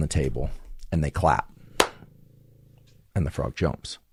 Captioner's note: claps